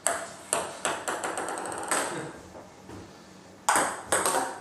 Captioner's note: ball ping pong hitting continues